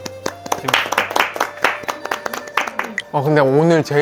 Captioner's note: applause, everyone